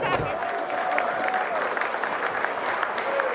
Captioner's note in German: Jubel, Stimmengewirr